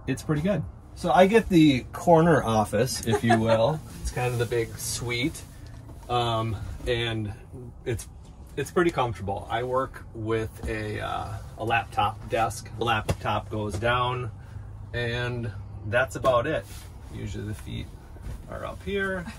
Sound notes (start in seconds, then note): 3.0 laughing